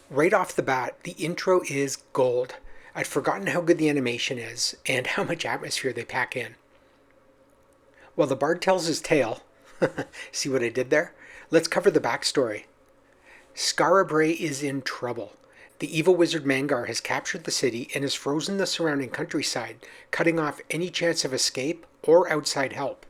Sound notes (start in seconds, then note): 9.7 chuckles